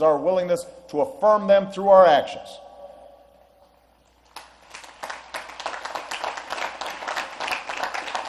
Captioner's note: applause